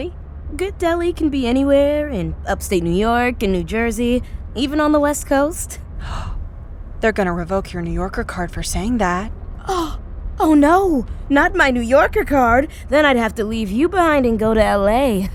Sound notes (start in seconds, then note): 6.0 gasping